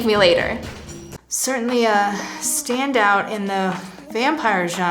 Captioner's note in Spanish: somnoliento